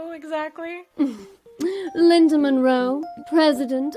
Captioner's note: chuckles